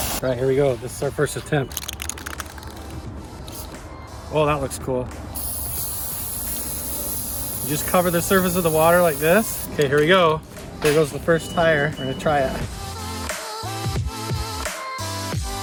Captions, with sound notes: All right, here we go. This is our first attempt. (spray cans rattling) Oh, that looks cool. (spray cans spraying) You just cover the surface of the water like this. OK, here we go. Here goes the first tire. I'm going to try it. (upbeat music)